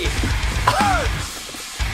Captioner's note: cough